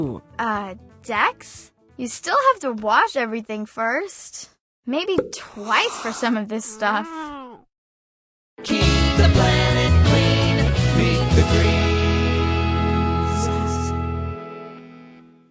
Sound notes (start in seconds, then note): 6.9 disgusted meow